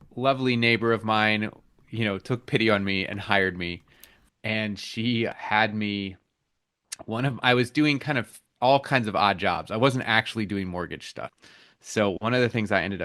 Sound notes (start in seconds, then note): none